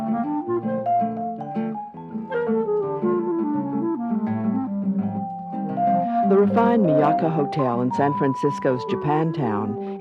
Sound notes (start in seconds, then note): 6.8 voiceover